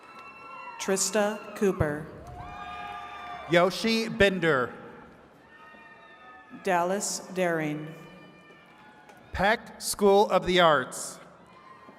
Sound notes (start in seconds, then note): 0.0 attendees cheering; 4.9 attendees cheering